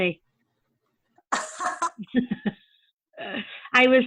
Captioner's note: laughter